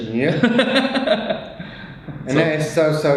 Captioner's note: laughing